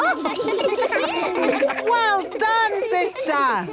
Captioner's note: children laughing